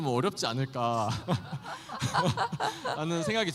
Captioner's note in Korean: 웃음